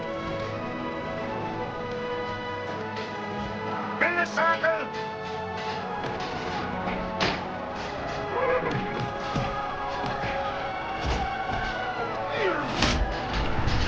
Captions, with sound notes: - Make a circle! (people yelling) (thuds)